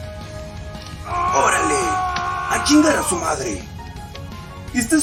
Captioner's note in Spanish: gritos de sufrimiento